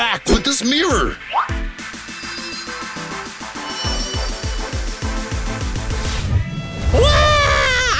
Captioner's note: shimmering sound as the sun grows